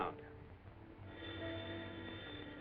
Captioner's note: phone rings